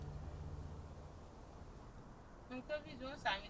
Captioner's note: chattering in local language